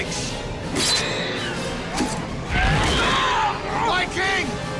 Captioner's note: swords scraping; creatures screeching; groans